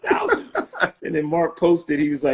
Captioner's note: laughing